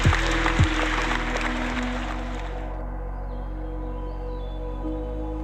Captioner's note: applause